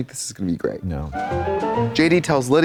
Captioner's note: bright chime